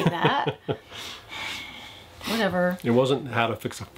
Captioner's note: laughs